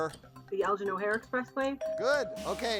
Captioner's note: bell chimes